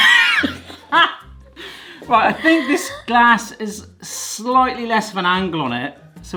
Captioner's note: laughter